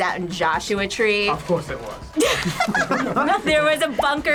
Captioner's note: group laughs